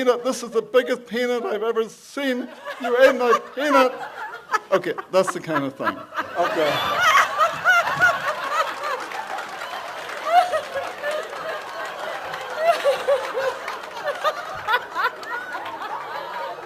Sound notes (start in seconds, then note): 2.8 laughs; 7.8 audience laughs and claps